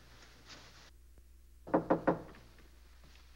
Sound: knocking

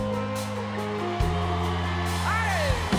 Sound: audience applauds

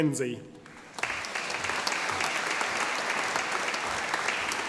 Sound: audience applauding

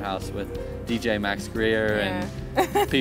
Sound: laughing

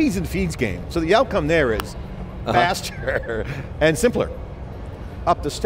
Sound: laughs

